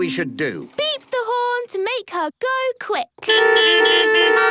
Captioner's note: beeping